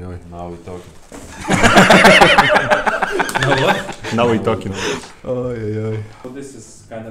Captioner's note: laughing